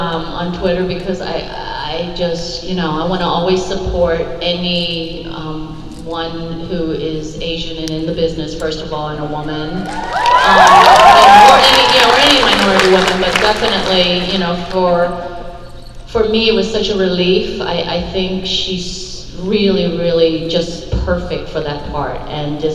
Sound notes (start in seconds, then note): 9.8 crowd applause